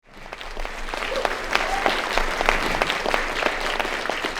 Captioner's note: crowd claps